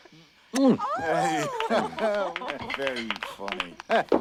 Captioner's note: applause